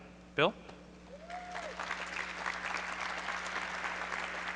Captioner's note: applause